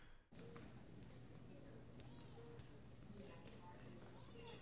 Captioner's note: monitors beep